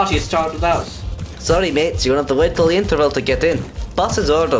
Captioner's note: awful Voice